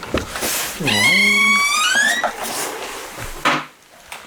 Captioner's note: very creaky door